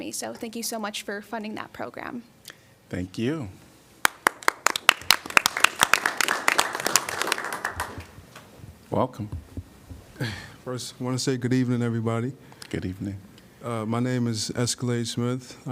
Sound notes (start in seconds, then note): 4.0 applause